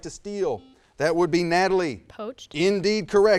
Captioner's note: buzzer buzzes